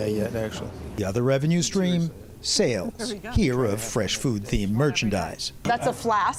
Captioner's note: voice-over